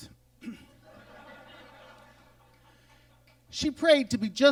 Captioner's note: audience laughs